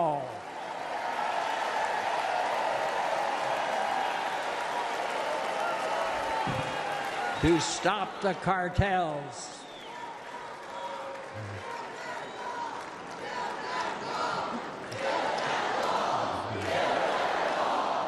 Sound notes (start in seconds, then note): 6.5 cheers and applause